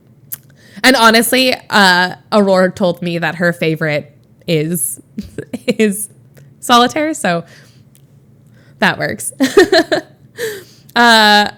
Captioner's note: Emma laughs